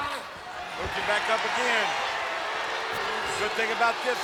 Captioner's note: crowd yelling